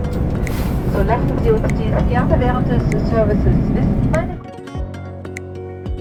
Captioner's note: cabin announcement